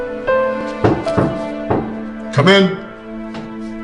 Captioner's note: knocking